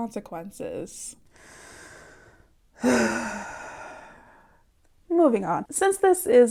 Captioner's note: mega siiiiiiiiiigh